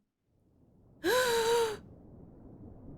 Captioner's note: gasp